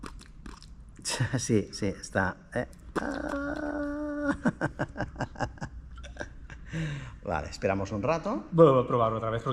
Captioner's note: laughter